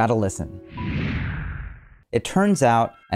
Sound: whoosh interlude

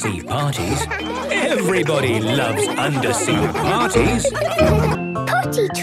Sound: laughter

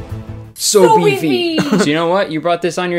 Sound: laughing

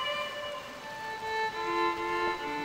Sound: none

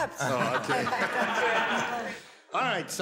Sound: laughter

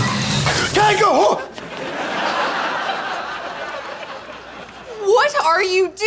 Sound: shouts

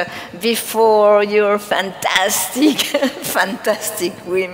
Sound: laughs

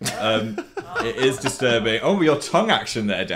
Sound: laughs

